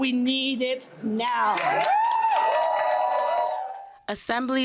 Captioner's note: cheers and applause